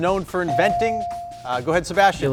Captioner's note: buzzer chimes